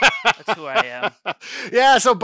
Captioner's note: laughs